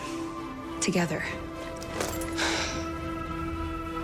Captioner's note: sighs